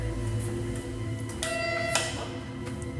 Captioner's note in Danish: Dørklokken ringer